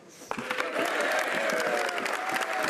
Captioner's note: speaking French